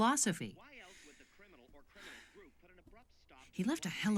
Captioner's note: sighs deeply